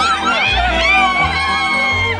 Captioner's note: screaming